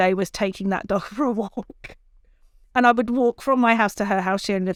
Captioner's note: chuckles